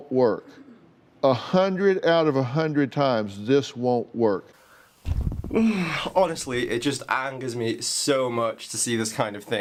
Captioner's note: sighs